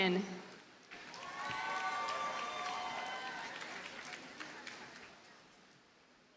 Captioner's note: audience cheers and applauds